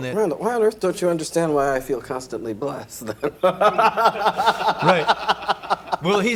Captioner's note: laughs